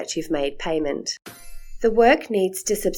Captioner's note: chime sound